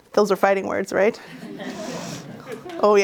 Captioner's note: laughs